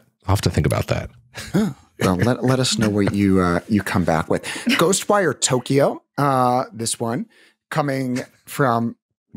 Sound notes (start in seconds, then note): 2.0 gasps